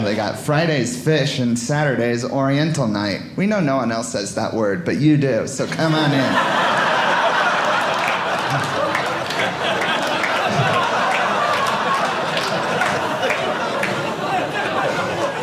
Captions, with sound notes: They got Friday's fish and Saturday's oriental night. We know no one else says that word, but you do. So come on in. (audience laughing) (audience clapping)